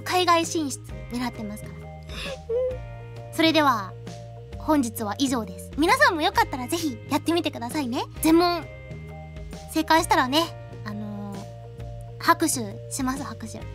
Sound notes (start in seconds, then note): 2.1 sob